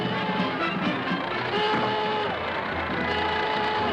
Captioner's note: horn honking